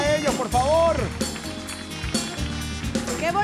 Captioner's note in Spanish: Aplausos